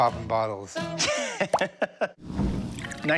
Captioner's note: laughs